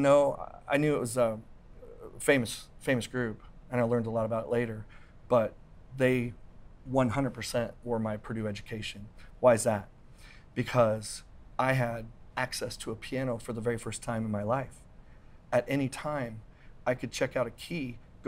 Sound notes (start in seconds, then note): none